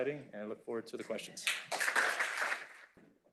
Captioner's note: applause